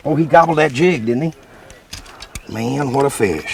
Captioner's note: beep, Beep